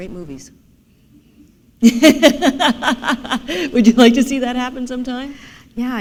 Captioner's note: laughter